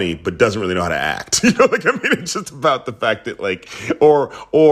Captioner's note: laughter